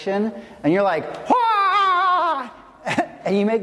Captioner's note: yells